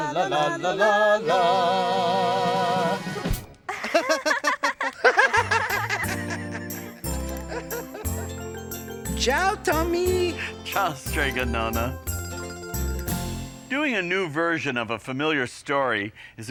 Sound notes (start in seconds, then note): 3.7 laughing; 6.5 happy lighthearted music